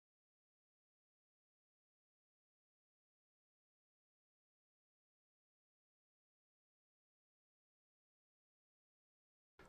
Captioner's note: silence